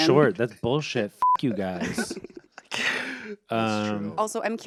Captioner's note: beep